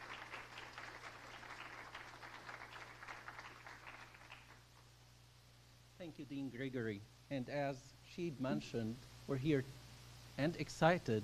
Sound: applause

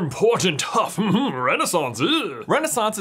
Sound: harrumphs

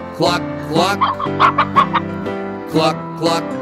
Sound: chicken clucking

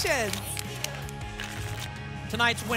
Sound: tickets shuffling

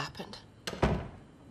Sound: closing of door

